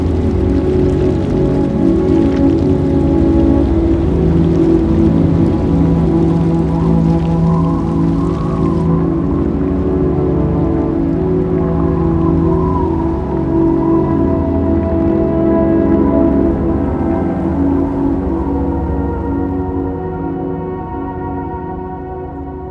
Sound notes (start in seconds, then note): 0.2 water running; 4.6 water running; 8.7 wind rustling; 15.9 ominous music; 19.3 suspense music